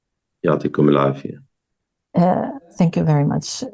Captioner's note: speaking arabic